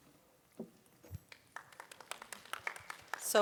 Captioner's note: applause